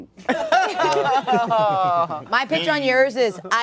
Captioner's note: laughter